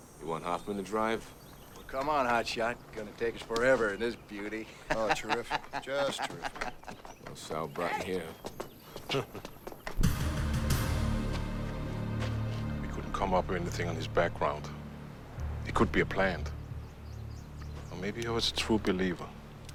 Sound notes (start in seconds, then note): 9.0 Kurt laughs; 10.3 slow dramatic music